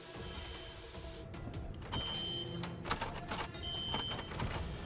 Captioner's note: rattling handle; alarm blaring